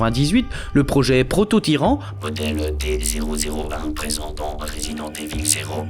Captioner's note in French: voix robotisée